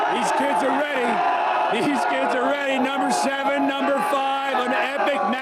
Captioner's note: cheers